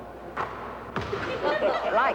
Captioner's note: laughter